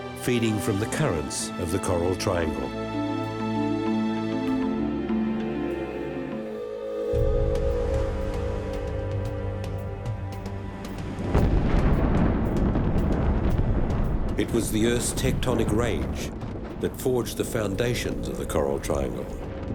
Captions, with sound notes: feeding from the currents of the Coral Triangle. [dramatic music] [explosion] It was the earth's tectonic rage that forged the foundations of the Coral Triangle.